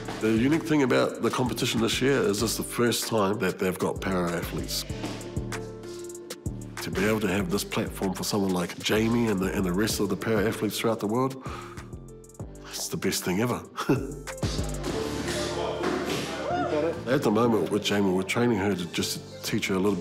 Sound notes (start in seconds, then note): 15.1 chuckles warmly